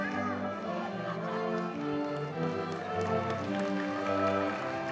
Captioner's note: audience cheers and applauds